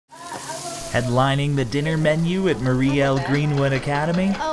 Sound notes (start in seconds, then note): 0.1 sizzling butter on skillet